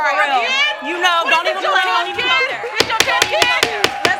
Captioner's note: crowd oohing; all yelling; bangs gavel